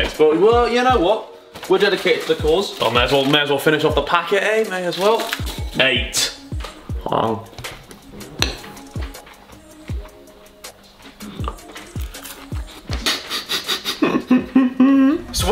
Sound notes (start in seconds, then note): 8.2 man chewing; 12.9 laughing